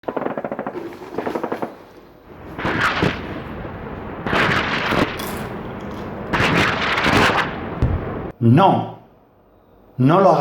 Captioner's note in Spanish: Disparos, explosiones